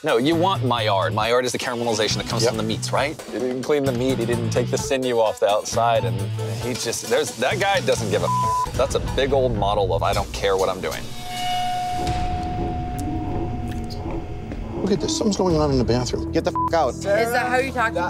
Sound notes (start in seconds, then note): 8.2 beeping; 12.0 tense music; 16.5 beeping